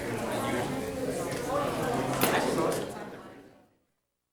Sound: group chattering

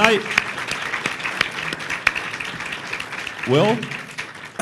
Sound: applause

